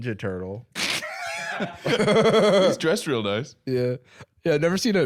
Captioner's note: laughs